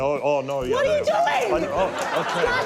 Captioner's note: stammers